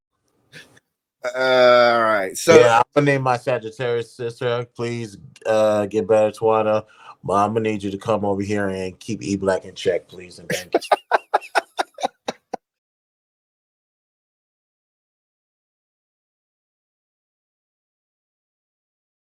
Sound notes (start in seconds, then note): 10.5 laughter